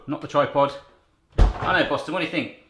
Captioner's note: clunking